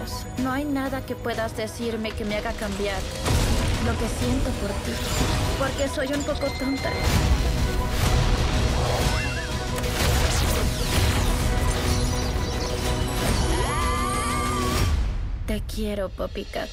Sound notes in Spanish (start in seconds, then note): 6.6 música dramática; 11.7 pájaros pían; 13.4 gritos